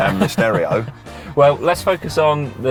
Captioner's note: laughing